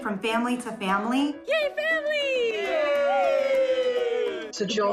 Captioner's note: all cheering